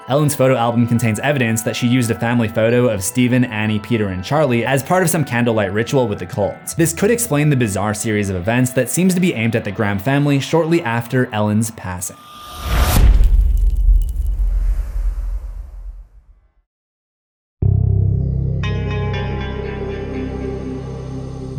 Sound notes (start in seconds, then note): 12.3 impact; 17.7 mysterious music